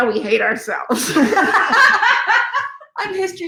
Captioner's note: laughing